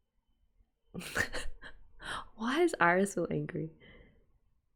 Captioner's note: laughs